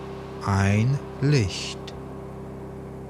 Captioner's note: german